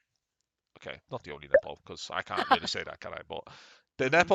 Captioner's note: laughs